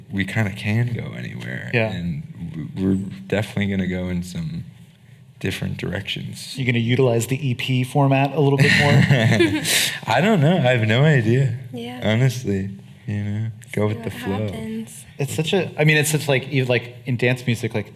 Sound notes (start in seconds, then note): 8.6 laughing